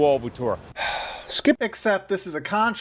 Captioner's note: sigh